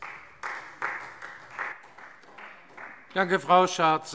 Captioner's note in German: Beifall Freie Demokraten